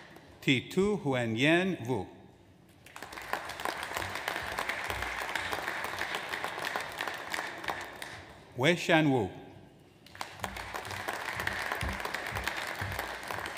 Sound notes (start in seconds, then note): 2.8 audience applauds; 10.0 audience applauds